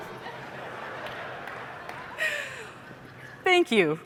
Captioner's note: laughter